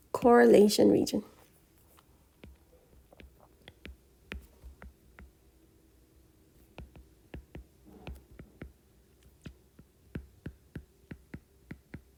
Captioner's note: writing Sounds